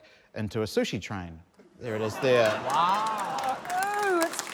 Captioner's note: applause